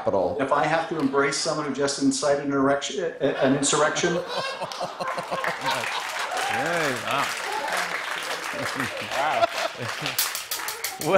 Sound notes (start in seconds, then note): 3.3 laughing; 8.2 chuckles; 10.2 drumsticks tapping